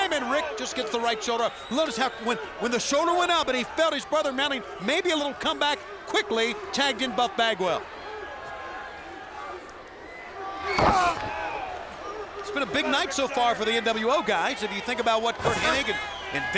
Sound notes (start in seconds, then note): 10.6 thuds